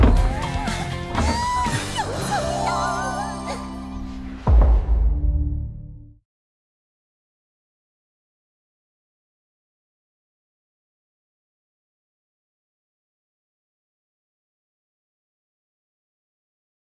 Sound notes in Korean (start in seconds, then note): 2.0 반짝이는 효과음